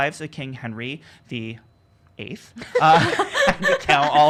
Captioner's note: laughing